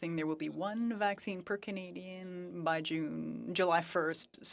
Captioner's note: speaking French